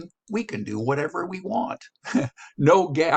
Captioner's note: chuckles